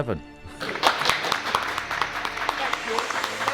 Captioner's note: audience claps